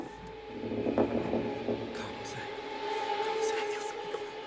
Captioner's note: wood creaking